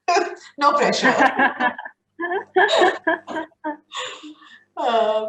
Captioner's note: both laughing